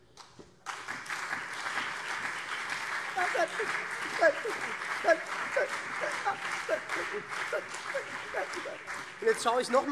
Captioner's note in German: Beifall